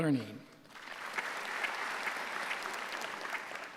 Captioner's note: applause